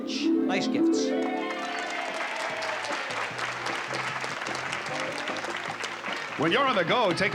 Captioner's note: applause